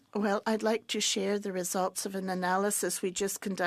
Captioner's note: speaking French